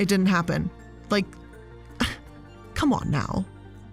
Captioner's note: scoffs